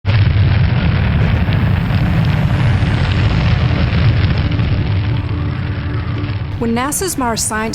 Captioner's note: Roar of fire and wind as MSL enters Mars' atmosphere